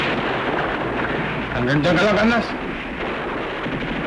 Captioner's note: speaking filipino